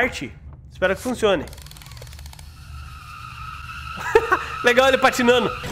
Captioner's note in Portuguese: Risos